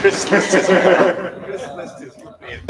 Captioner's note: laughter